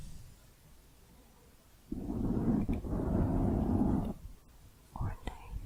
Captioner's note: mic scratching